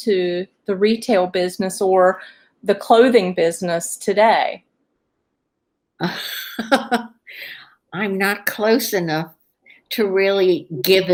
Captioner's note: laughs